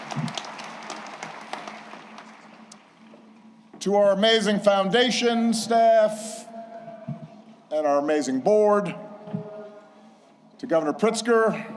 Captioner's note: applause